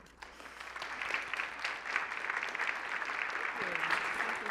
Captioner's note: applause